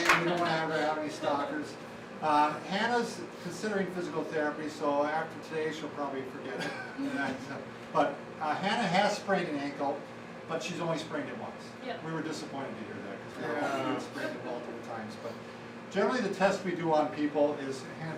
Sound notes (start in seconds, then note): 6.5 chuckling